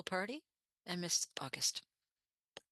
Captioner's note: speaking French